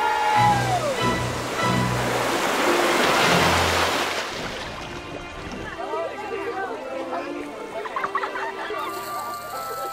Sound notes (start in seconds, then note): 2.7 water splashing; 7.7 laughter